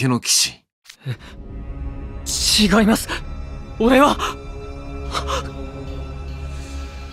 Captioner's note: gasp